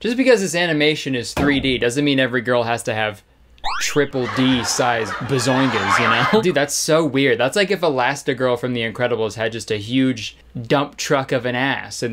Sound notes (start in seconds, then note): 4.1 crowd laughing